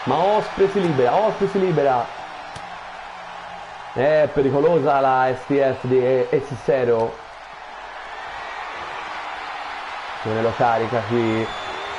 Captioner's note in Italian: Applauso